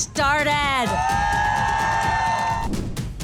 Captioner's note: all cheer; upbeat drum music